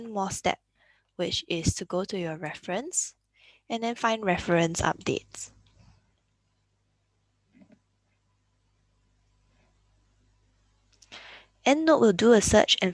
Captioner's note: click